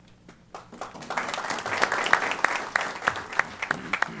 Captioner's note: applause